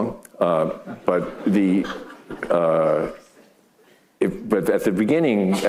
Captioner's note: audience laughing